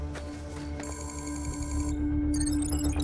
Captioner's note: computer trilling